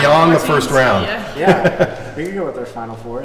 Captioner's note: laughter